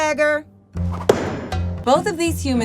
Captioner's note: knife hits board